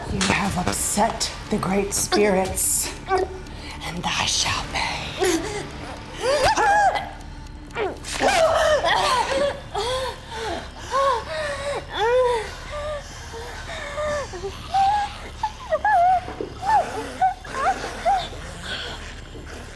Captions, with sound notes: - You have upset the great spirits, and thy shall pay. (Kira choking) (knife thumps) (Kira grunts) (Kira breathing laboriously) (creatures snarling) (Kira breathing laboriously)